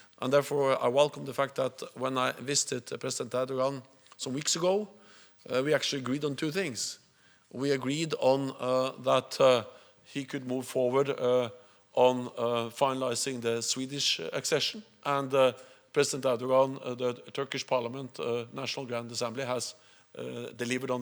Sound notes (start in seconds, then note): 12.8 Swedish